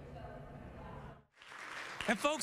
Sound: applause

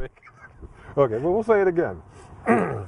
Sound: laughing

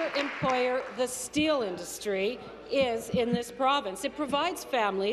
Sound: applause

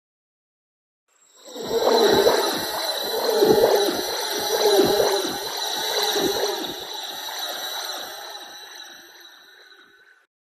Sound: sound of creepy chill

